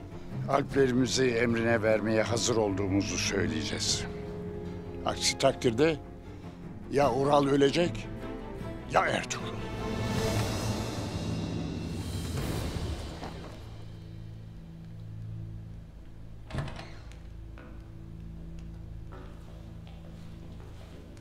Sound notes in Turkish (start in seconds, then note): 16.4 Kapı açılma sesi